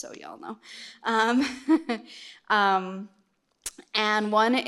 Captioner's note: laughs